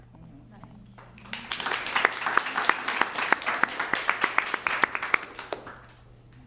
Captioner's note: applause